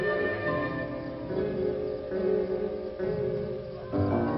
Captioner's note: insects chirping